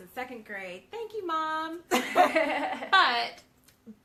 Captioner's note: both laughing